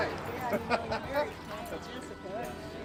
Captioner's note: laughs